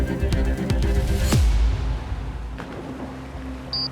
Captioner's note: swooshing; splashing